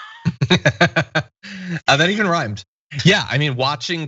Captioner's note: laugh